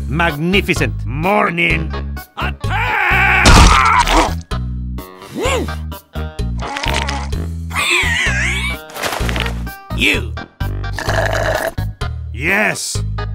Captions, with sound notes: Magnificent morning. Attack! You... *french slurping* Yes?